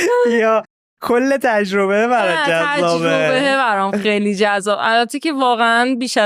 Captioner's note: laughs